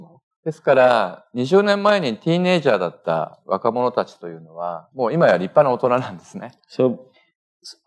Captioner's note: speaking japanese